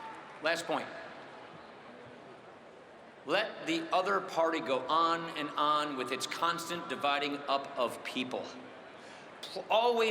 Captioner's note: cheering and applause